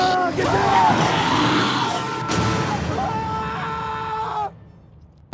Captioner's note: men screaming